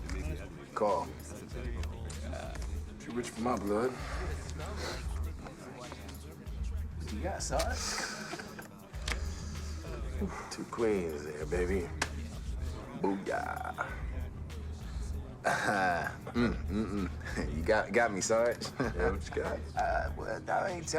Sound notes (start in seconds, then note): 9.7 sighs; 15.2 laughs